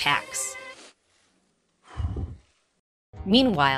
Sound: sniffling and sighing

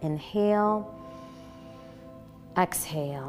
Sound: exhaling; inhaling

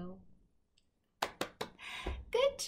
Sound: clapping

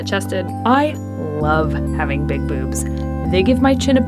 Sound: voiceover

